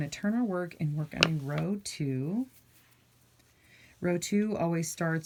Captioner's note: rustling